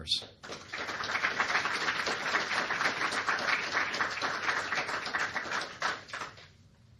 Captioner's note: applause